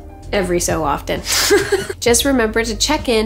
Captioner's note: chuckles